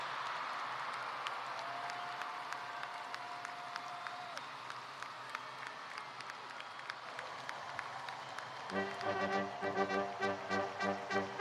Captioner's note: cheers and applause